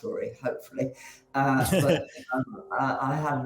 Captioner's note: chuckles